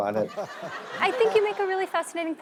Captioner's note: laughing